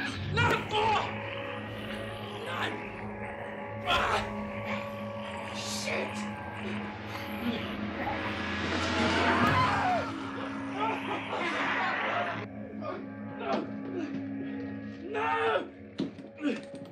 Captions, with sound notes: - No! (grunts) Nan! (grunts) Shit! (snarling) (yelling) Nan!